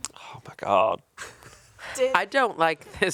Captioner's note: chuckling